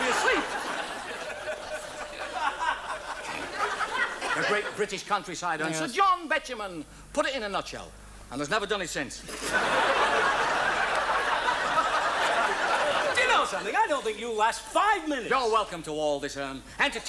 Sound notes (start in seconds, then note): 0.0 scattered audience laughter; 9.3 audience laughs